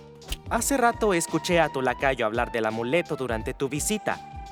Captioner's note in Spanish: none